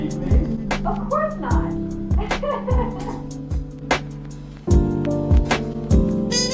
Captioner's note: laughs